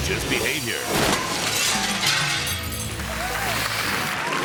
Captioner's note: glass shattering; title whooshing; audience clapping and cheering